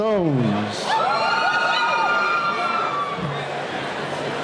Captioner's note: cheering